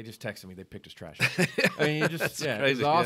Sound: laughs

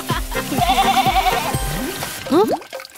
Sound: laughing; bleating

